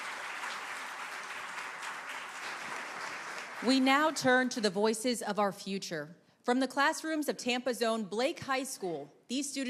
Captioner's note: applause